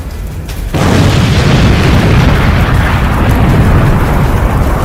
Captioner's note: plane exploding